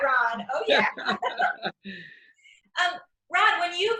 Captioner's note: laughs